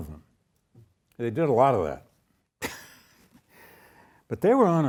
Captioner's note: chuckles